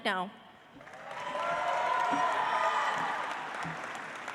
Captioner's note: audience applauds